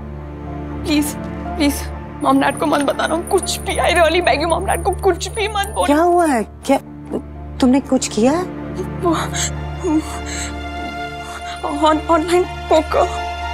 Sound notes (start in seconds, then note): 8.7 crying